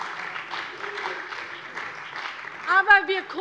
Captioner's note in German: Beifall bei der CDU und dem BÜNDNIS 90/DIE GRÜNEN